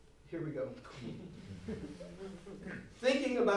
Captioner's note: audience laughs